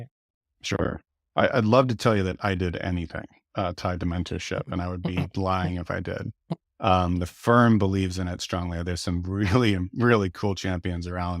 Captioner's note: laughs